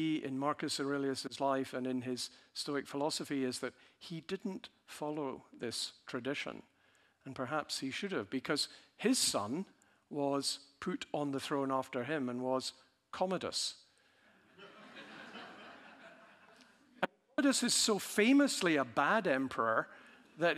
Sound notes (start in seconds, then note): 14.5 audience laughing